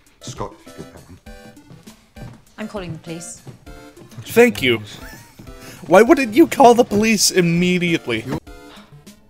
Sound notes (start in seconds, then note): 5.0 wheeze